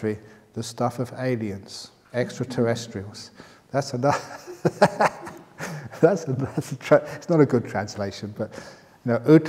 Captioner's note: laughter